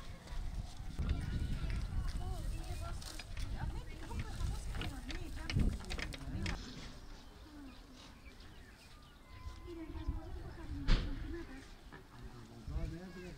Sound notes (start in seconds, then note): 3.3 sound of nature